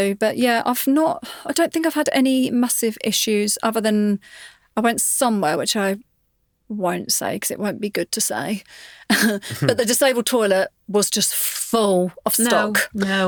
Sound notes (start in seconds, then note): 9.2 chuckles